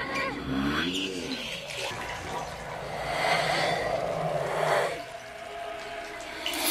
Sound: suspenseful music; water pouring; whispered moaning

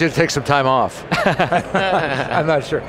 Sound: laughing

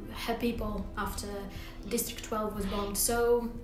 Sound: Katniss gasping

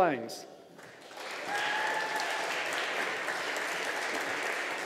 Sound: audience applauding

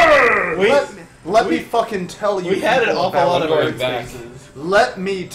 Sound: talk over medibot

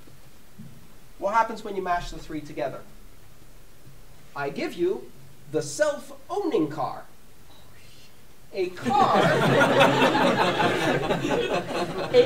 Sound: laughter

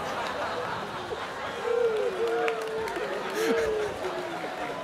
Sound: students laughing

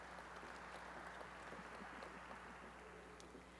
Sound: applause

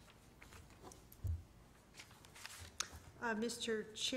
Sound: paper rustling

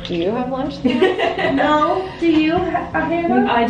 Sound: laughing

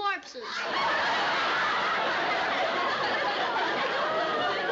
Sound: laughter

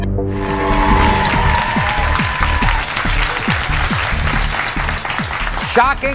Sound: audience screaming; upbeat music; audience applauding

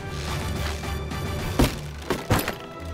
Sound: thudding

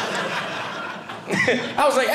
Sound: audience laughing

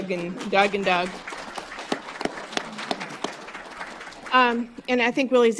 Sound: applause

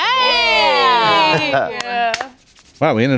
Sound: all cheering

